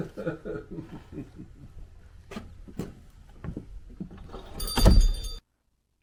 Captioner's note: laughter